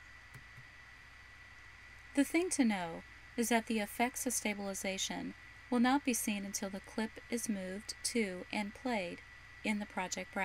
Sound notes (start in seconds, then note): 1.2 voiceover - female speaker